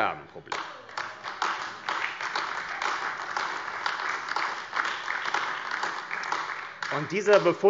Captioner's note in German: Beifall AfD